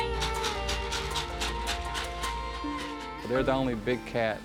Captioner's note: treat bucket shaking